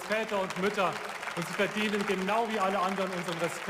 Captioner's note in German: Beifall